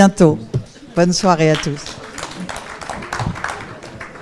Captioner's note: applause